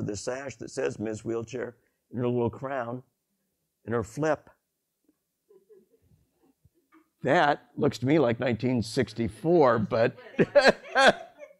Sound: laughs

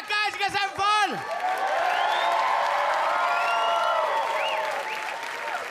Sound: audience whistle and cheer

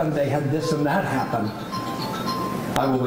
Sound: cell phone ringing

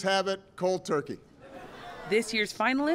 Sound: laughter

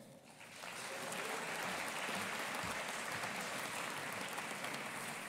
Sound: audience applauding

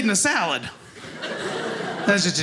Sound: audience laughing

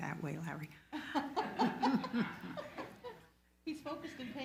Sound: all laughs loudly

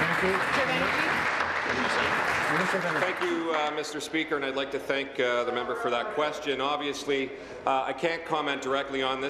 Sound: applause

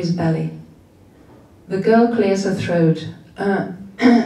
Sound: coughs

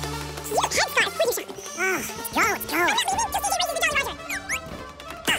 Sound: speaking fast forward

